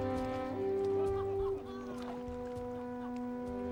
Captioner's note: dramatic music; men laugh